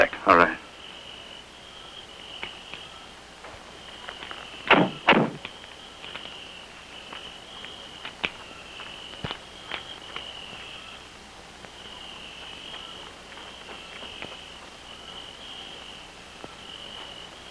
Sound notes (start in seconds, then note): 4.7 doors banging; 8.0 chirping; 8.0 rustling